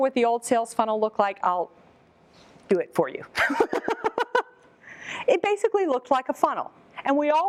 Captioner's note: laughs